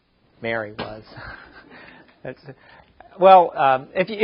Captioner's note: chuckles